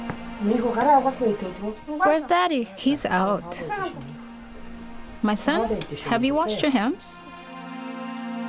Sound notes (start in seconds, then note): 3.1 boy's English Voiceover